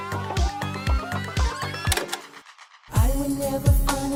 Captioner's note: upbeat synth music; tape fast forwarding